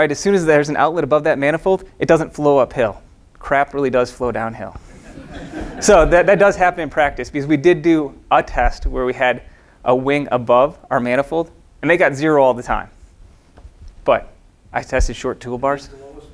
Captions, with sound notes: As soon as there's an outlet above that manifold, it doesn't flow uphill, crap really does flow downhill. (audience laughing) So, that does happen in practice 'cause we do a test where we had a wing above our manifold and they got zero all the time. But I tested short toolbars.